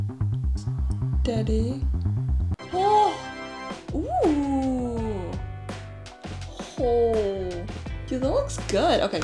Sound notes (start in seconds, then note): 3.8 happy noises